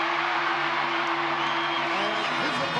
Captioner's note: audience cheering